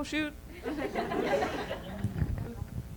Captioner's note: laughter